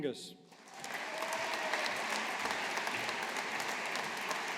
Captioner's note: audience applauding